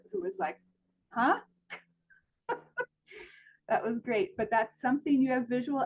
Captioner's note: laughs